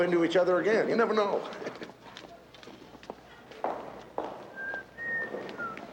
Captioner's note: whistling